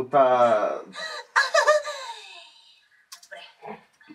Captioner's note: tries out a giggle